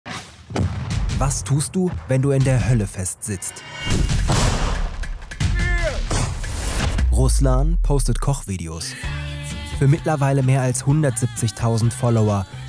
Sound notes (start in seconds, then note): 0.5 dull crash; 3.7 crash; 5.4 shout, crash